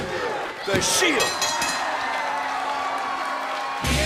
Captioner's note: bell ringing